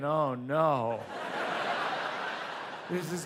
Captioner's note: audience laughs